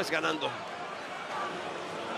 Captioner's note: applause